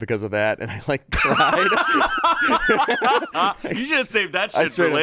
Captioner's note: everyone laughs